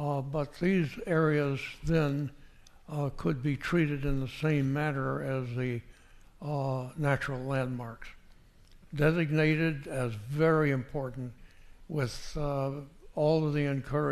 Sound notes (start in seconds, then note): none